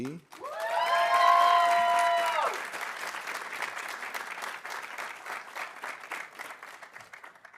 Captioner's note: audience applauding; audience cheering